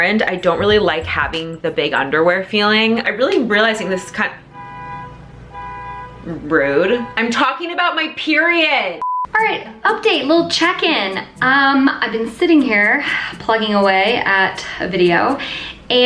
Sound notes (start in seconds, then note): 4.4 car hooting